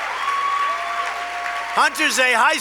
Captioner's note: applause